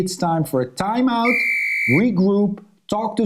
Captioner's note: whistle blowing